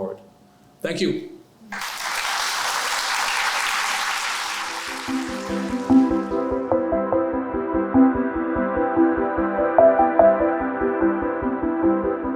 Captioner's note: applause